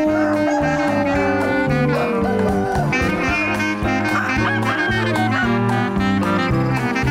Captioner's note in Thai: เสียงไก่ขัน